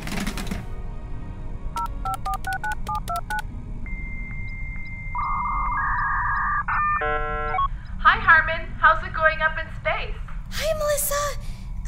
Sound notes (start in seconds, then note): 1.7 boop boop boop; 5.1 dial-up modem connecting